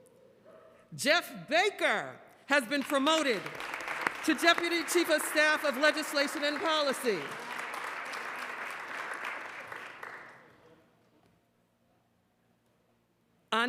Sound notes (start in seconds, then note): 2.3 applause